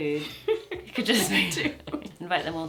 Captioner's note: she laughs